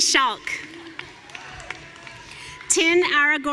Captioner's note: audience cheering